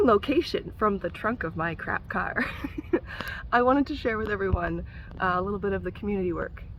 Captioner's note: giggle